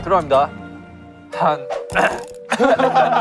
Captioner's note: ahem